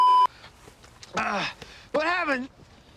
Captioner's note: beeeeeeeeeeeep; groan